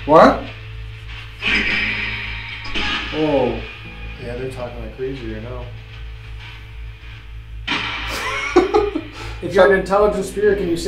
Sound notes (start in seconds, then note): 1.7 radio noise reverberating